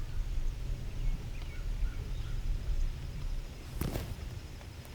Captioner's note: birds chirping